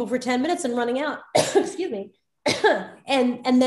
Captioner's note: Soledad coughing